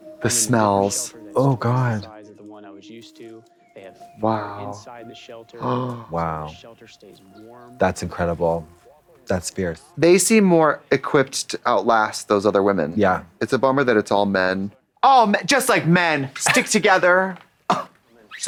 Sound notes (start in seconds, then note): 5.6 Trixie gasps; 15.8 scoffs